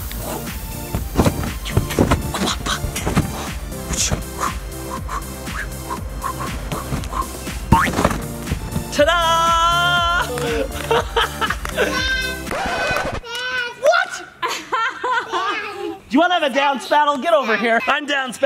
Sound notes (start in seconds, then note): 0.2 pop music; 2.9 whooshing; 8.8 laughing; 11.3 clapping; 14.4 laughing